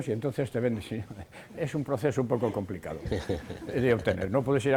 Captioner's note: laughts